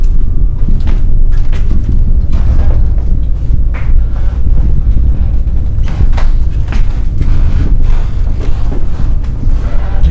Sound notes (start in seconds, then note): 2.0 rumbling growing louder